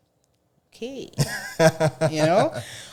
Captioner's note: laughing